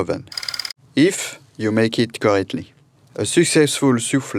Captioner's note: slide rolling